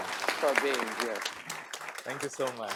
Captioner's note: audience applauding